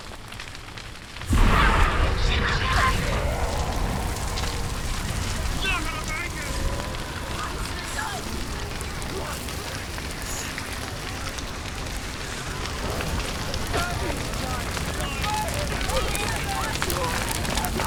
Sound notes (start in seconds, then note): 1.3 loud burst of noise; 3.3 sound of screaming, yelling